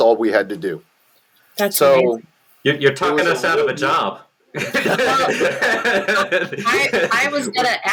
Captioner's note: laughter